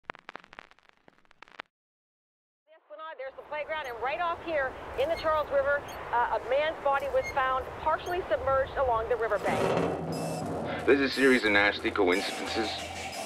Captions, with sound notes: (crackling) - [Radio Announcer] At the esplanade there's a playground and right off here, in the Charles River, a man's body was found partially submerged along the riverbank. (erratic music) - If there's a series of nasty coincidences